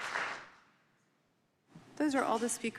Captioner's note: applause